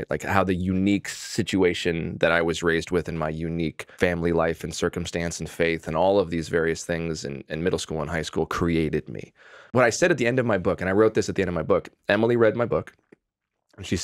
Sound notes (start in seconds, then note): none